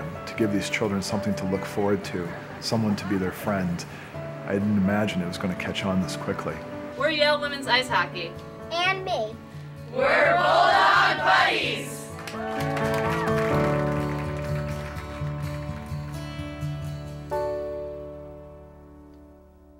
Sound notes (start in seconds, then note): 12.0 soft piano music; 12.2 cheering